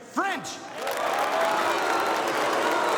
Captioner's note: members applauding and cheering; members booing